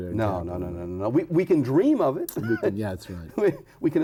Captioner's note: laughs